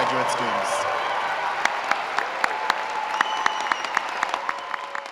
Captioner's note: applause